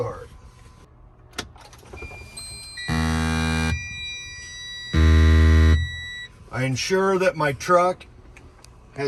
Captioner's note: engine starting; beeping